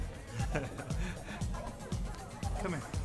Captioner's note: Mason chuckling